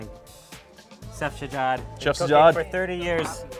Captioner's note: speaks foreign language